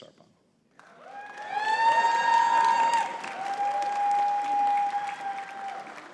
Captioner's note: audience cheering and clapping